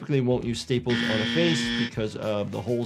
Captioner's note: buzzer buzzing